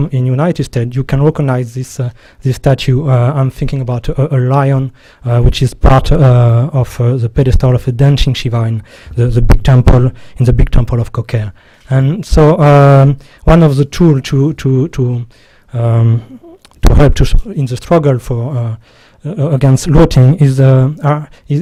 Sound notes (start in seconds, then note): 15.2 stutters